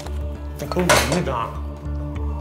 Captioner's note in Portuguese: música de suspense; panela batendo; música de suspense